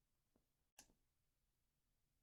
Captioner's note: click